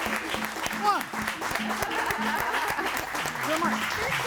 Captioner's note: audience applauding